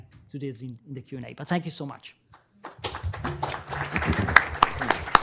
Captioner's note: applause